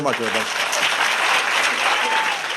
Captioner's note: applause